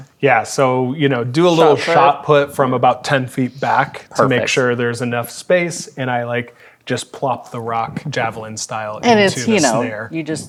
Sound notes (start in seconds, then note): none